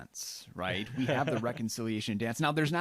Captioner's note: laughs